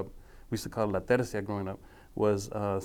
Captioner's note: speaking foreign language